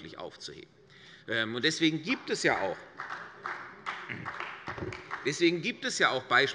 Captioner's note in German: Beifall bei Abgeordneten der CDU und dem BÜNDNIS 90/DIE GRÜNEN